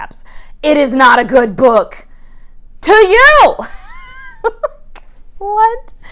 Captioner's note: shouting; laughing